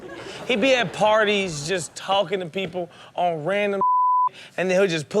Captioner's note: beep